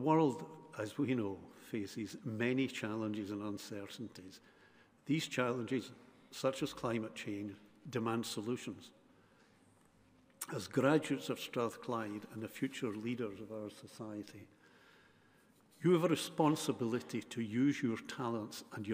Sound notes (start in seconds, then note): none